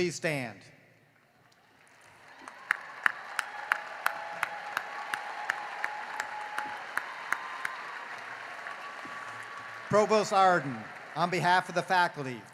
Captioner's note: cheering and applause